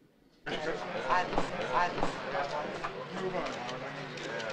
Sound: reporters talking

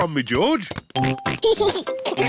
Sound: oinks and giggles

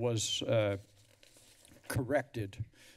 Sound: flipping pages

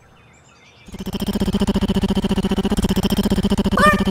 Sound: tap tap tap tap tap

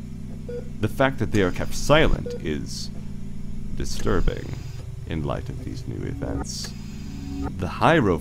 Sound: mechanical ambiance

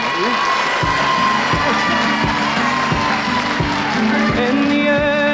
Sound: audience applauding

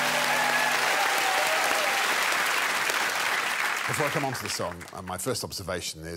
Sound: applause, cheering

